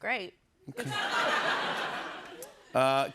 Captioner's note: laughter